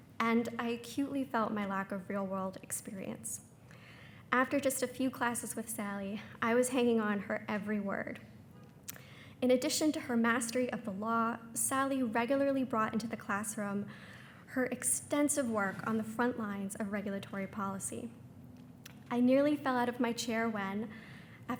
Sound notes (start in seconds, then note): none